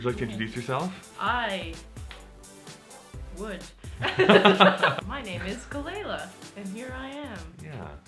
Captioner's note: laughter